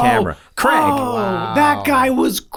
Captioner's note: Charlie Exclaims